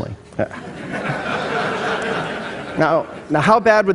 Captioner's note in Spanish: Risas